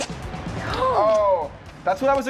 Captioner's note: gasps